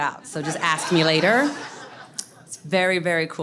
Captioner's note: audience laughs